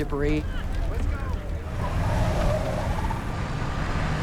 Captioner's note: tires screeching